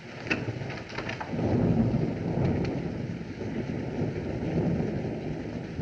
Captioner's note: thunder Rumbling